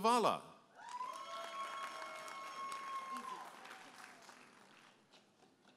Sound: audience applauding and cheering

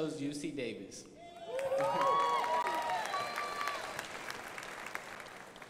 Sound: crowd applauding

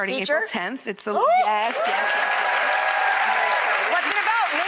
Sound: cheering and clapping

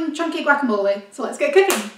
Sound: claps

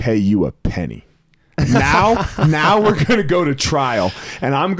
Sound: laughs

